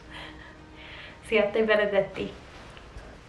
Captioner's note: speaking in foreign language